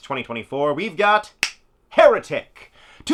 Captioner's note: snap